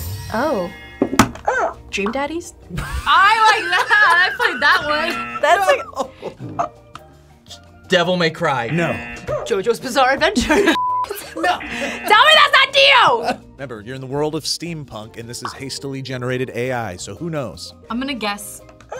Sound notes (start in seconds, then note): 0.4 buzzer barks; 5.1 buzzer; 5.6 laughs; 8.5 buzzer barks; 8.6 buzzer